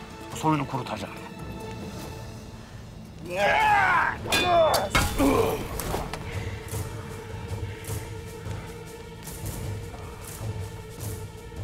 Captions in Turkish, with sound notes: ...soyunu kurutacağım. (Bağırma sesi) (Dövüşme sesleri) (Müzik - Gerilim)